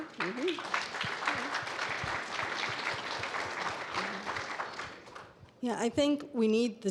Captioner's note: audience applauding